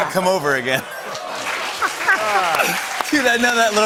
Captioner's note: laughter and applause